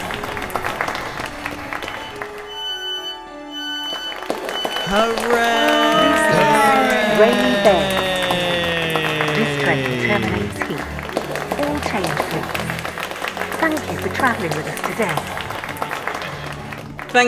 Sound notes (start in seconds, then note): 0.0 clapping; 0.0 honk; 0.0 hoorays; 2.5 door chime; 2.5 hoorays; 3.8 clapping